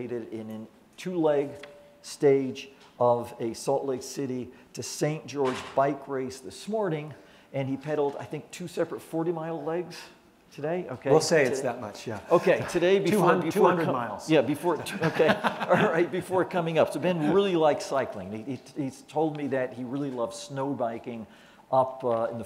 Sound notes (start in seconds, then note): 14.8 laughter